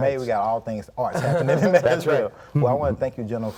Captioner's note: laughs